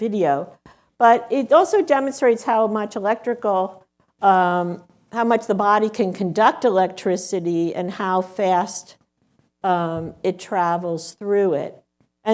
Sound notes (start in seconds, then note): none